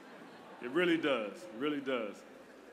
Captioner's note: laughter